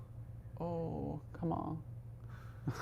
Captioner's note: chucking